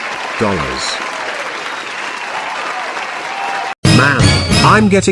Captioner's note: audience Cheering